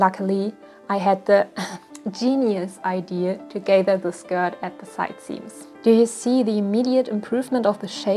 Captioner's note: ahem